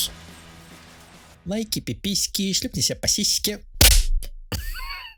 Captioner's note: slap